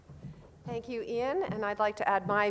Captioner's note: voiceover